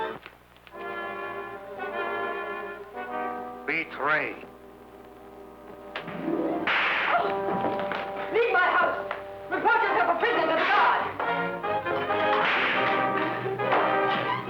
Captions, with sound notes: (foreboding music) - Betray. (whip cracking) - Leave my house! Report yourself a prisoner to the guard! (suspenseful music)